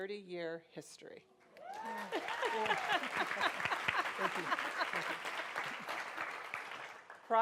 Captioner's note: applause